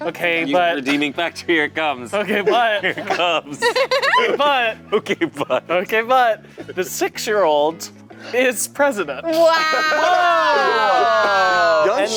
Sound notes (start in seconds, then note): 3.6 laughing